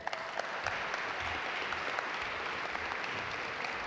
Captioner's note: audience applaud